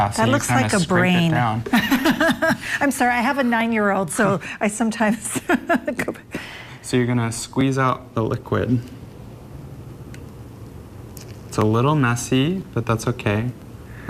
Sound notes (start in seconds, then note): 1.7 laughing; 5.6 laughing